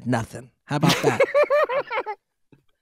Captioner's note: laughing